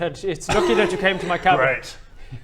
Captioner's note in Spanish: risitas inmaduras